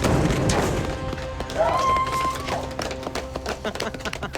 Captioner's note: cheering; chuckles